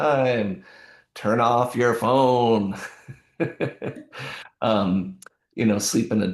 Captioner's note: chuckles